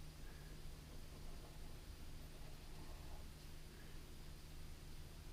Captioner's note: pen scratching